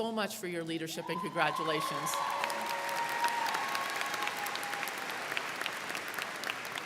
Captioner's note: crowd cheering